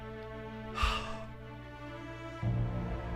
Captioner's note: sigh